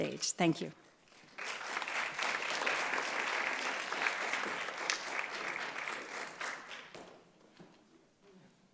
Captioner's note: applause